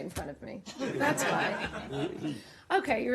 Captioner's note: laughter